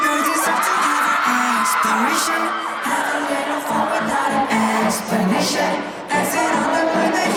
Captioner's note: none